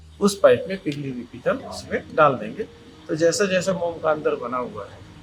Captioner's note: speaking foreign language